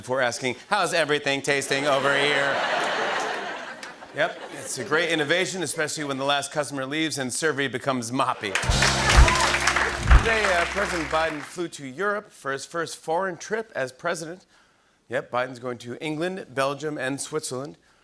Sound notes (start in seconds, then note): 0.0 robotically; 1.7 laughter; 8.4 cheers and applause